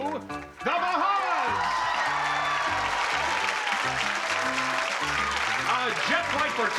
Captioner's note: applause, cheering